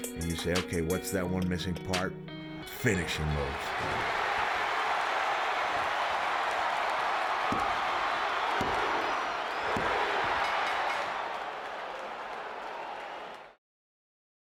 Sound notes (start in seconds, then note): 4.1 crowd cheering; 10.3 bell ringing